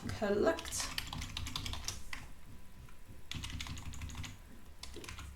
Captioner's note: keyboard clattering